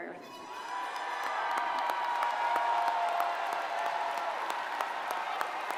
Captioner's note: crowd cheering and applauding